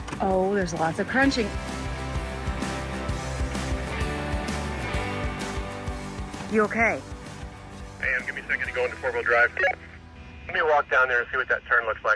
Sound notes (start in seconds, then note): 9.2 walkie talkie beeping